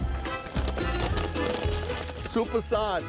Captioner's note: packet rustling